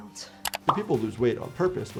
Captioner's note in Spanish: clic del mouse